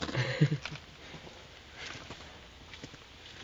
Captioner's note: laughing